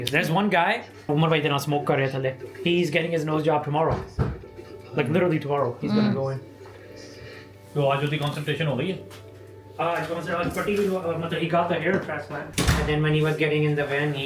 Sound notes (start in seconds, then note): 8.1 speaking foreign language